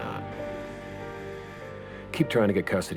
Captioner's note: alarm buzzes